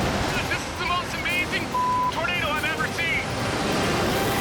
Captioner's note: beep